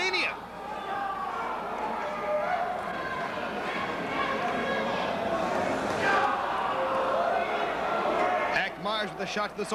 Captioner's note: crowd chatter